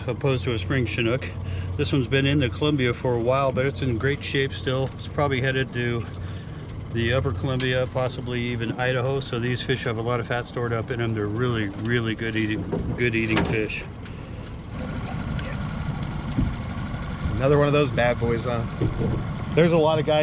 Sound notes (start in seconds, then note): 14.1 boat engine running